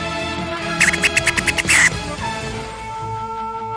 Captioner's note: beatboxing continues